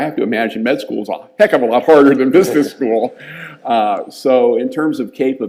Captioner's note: laughs